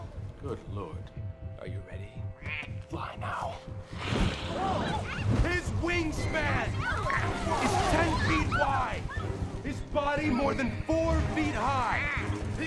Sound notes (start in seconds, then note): 4.6 ALL EXCLAlMlNG